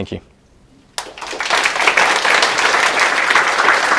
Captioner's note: applause